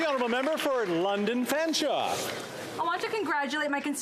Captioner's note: some Applause